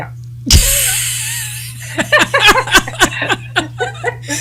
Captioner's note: laughing